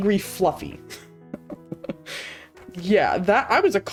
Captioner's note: chuckles